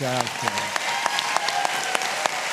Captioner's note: applause